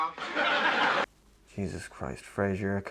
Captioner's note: canned laughter